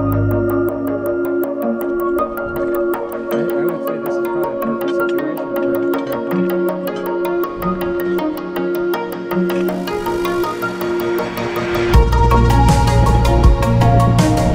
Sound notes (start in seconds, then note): 4.8 murmurs; 12.1 bright upbeat music